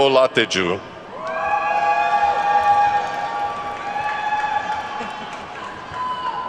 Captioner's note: attendees whooping and clapping